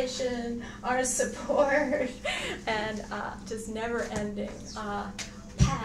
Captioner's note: laughs